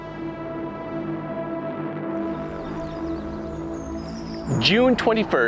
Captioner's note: dramatic music begins; birds chirping